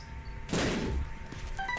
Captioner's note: boom